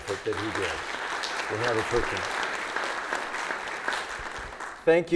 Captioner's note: audience applauds